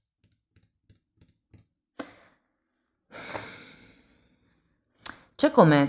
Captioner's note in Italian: sospiri